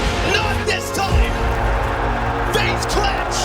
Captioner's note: crowd cheering